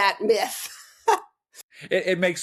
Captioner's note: laughing